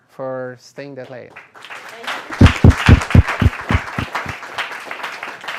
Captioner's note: applause